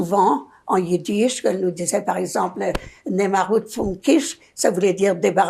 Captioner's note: yiddish